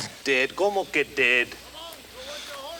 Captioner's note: speaks Spanish